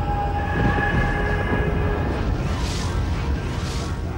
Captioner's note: thunder rumbling; lightning cracking